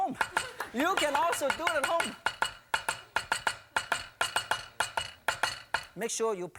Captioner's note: knife chopping noises